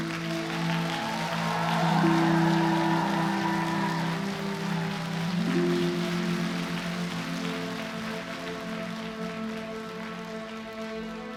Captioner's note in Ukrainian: оплески